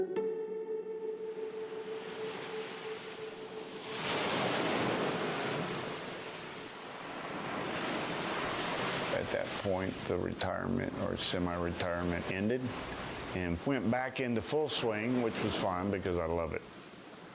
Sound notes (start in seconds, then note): 3.2 waves rushing